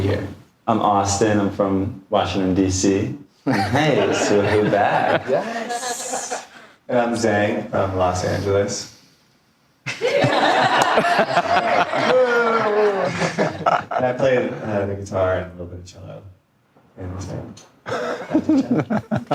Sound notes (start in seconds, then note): 9.9 audience laughing